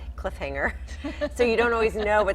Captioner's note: laughing